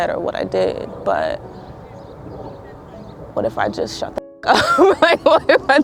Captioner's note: laughing